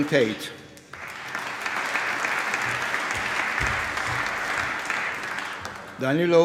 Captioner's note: applause